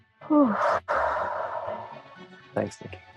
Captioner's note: sighs